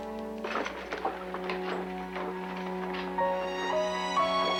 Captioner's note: wagon rattling